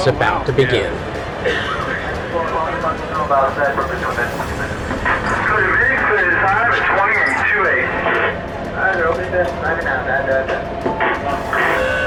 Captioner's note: submarine sounds from the captain; steps